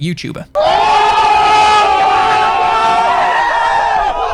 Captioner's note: shouting and cheering